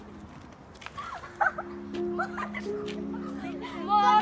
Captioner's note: girls laughing